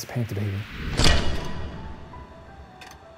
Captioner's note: metal clanks; gentle music